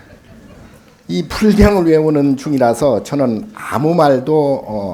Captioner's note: speaking Korean